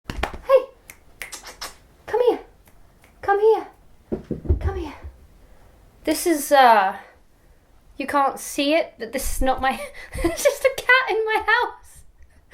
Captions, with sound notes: Hi! (kissing noise) Come here Come here (knock knock knock) Come here This is, er you can't se it, but this is not my...there's just a cat in my house!